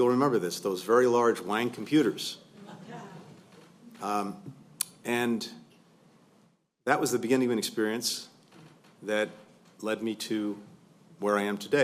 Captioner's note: laughter